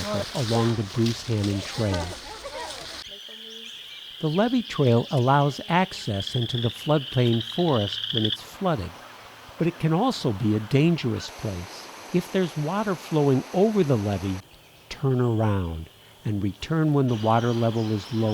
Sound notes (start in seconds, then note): 0.0 footsteps crunching; 3.0 frogs singing; 8.8 water flowing